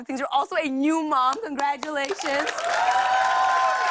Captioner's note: cheers and applause